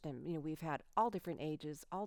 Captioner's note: none